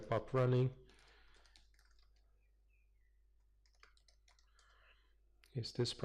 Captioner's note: pause